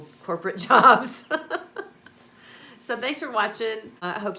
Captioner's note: laughs